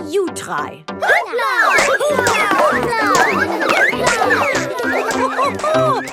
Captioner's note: all laugh